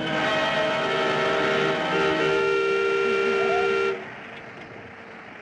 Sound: horn Honking

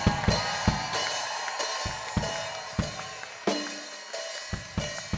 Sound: claps and cheers; drumming

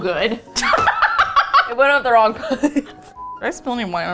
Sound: howls with laughter, slaps thigh; laughs

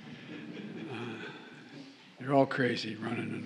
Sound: laughter

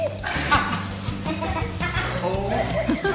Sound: laughs

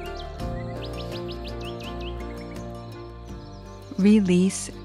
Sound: birds chirping

